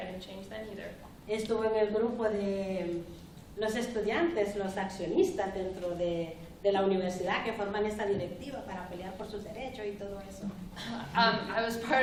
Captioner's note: speaking spanish